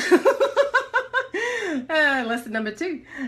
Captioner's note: laughs